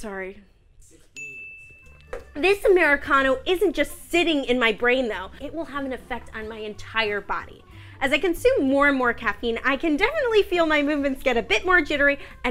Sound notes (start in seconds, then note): 1.2 bell rings